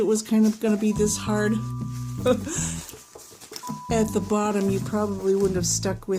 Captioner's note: chuckle